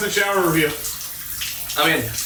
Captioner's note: water spattering